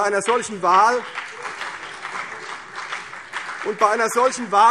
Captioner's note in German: Beifall CDU und BÜNDNIS 90/DIE GRÜNEN